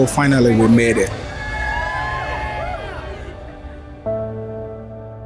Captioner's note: cheers and applause